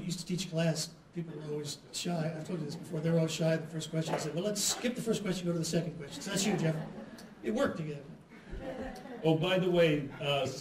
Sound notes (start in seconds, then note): 8.4 laughter